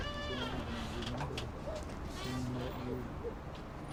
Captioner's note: door creaks